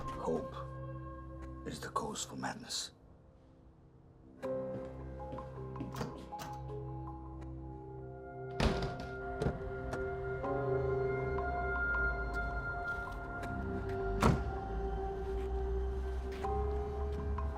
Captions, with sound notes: - Hope is the cause of madness. (tense music) (door clicking) (door clicking)